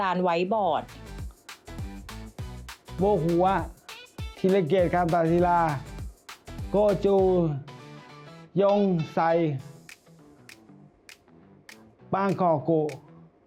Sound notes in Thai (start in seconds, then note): 2.8 ภาษาญี่ปุ่น